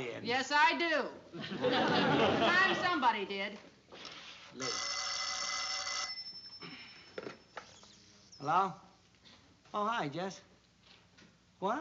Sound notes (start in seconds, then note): 4.6 phone rings